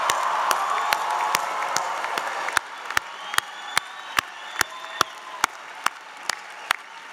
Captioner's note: applause